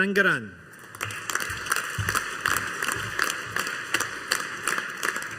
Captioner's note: audience applauding